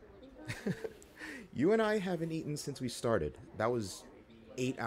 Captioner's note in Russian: смех